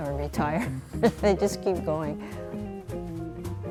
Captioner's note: laughs